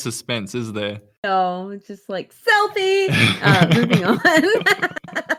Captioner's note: both laugh